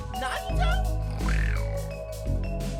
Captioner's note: snarl